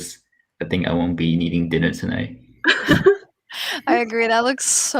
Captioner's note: laughs